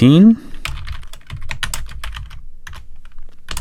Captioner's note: typing